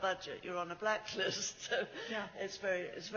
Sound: laughs

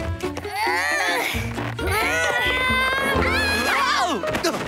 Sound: groaning

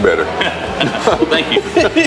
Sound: laughs

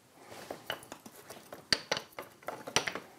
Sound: clattering

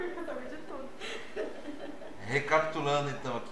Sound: laughter

